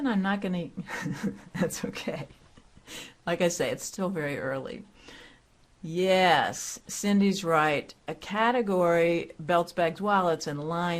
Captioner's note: laughter